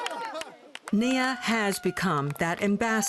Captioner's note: laughter